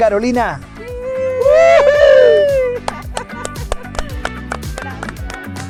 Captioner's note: aplausos